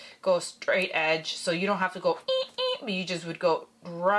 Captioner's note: beeping noise